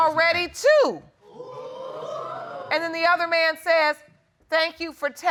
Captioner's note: audience exclaiming